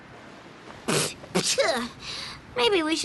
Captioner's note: spitting